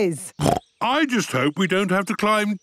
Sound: snorts

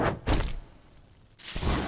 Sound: portal closes, fire burns out

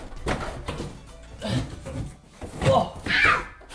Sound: grunting

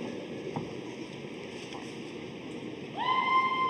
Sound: none

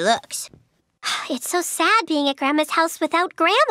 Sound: sighs

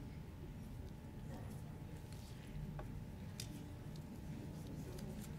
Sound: audience chattering

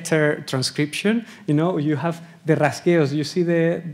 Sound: speaking Spanish

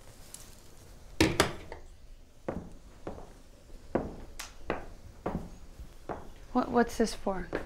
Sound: object thudding; footsteps thudding

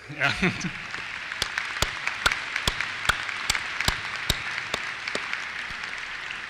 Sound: applause

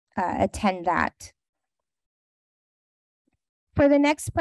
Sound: pause

